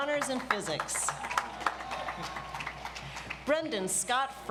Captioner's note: audience applauds